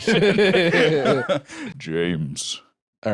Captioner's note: both laugh; deep voice